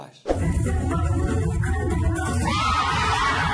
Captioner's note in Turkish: çığlıklar ve bağırışmalar